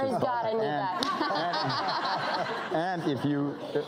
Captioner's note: everyone laughing